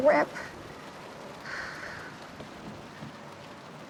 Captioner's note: deep exhale